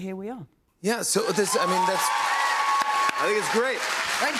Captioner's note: cheers and applause